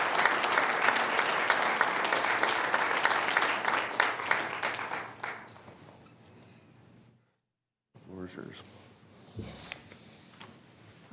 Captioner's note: applause